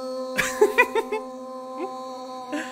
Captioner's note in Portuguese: risos